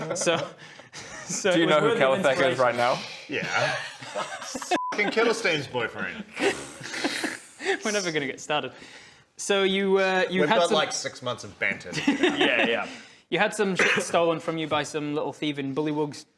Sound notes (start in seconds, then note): 6.4 pfff...pffff